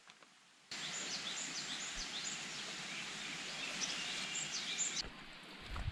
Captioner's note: bird sounds loud and varied